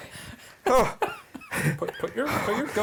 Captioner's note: laughing